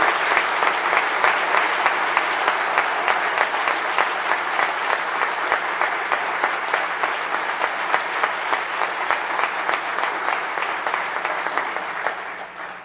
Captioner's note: applause